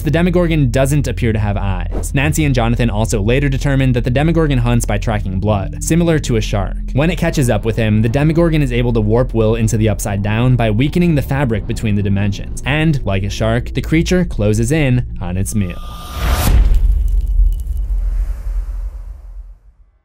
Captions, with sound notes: the Demogorgon doesn’t appear to have eyes. Nancy and Jonathan also later determine that the Demogorgon hunts by tracking blood, similar to a shark. When it catches up with him, The Demogorgon is able to warp Will into the Upside-Down by weakening the fabric between the dimensions, and like a shark, the creature closes in on it’s meal. (impact)